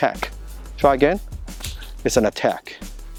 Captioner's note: clap